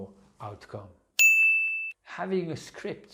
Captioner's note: pinging sound